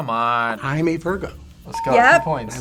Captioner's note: bell rings